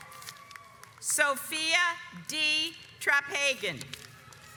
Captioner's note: audience applauds